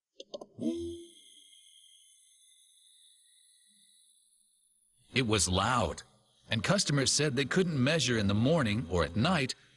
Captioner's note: humming